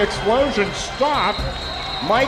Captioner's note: crowd